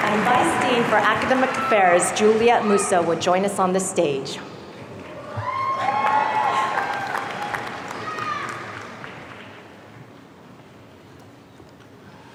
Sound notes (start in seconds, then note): 5.2 audience cheering